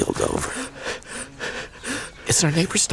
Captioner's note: panting